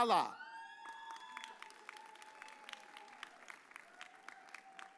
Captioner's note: audience cheers